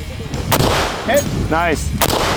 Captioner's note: gun bangs